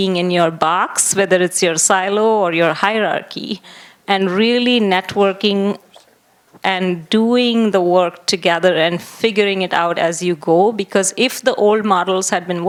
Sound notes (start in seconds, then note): none